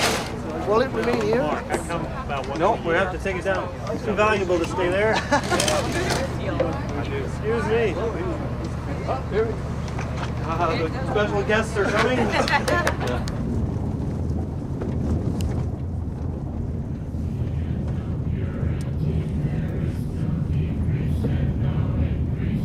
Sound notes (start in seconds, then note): 4.8 laughing; 11.7 laughing, clapping; 17.3 people chanting